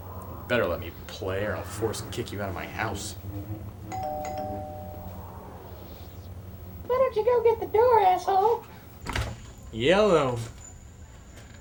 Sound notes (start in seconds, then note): 3.9 doorbell rings